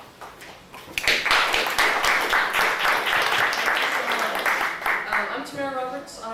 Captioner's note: audience applauding